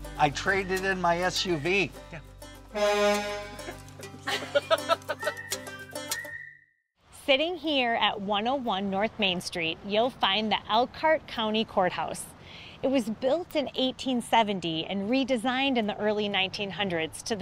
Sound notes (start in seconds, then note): 2.7 horn toots; 3.4 all laughing